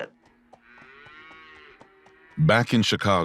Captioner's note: cows mooing